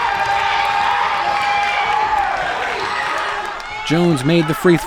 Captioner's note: crowd roars